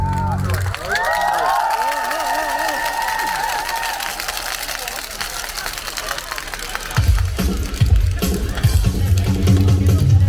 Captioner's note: applause